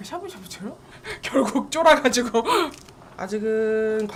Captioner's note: nervous